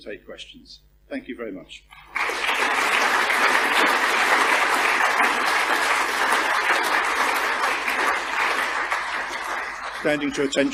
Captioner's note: applause